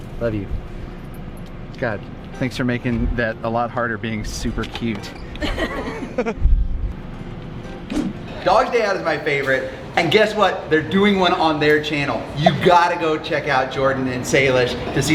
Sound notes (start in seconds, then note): 5.4 all laugh